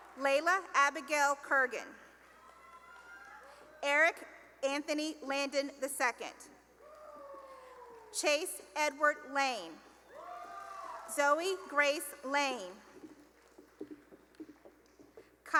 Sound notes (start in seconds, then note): 2.1 cheering and applause; 6.7 cheering; 10.0 cheering; 13.7 applause